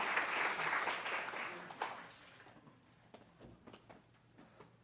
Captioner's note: applause